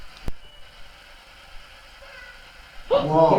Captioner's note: white noise